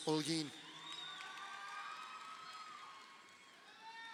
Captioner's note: crowd cheering